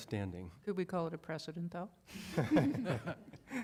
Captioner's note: laughter